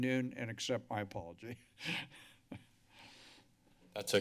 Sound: laughs

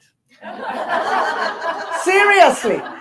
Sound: audience laughing

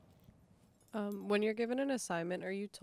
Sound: voiceover

